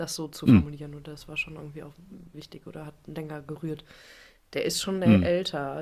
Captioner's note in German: räuspern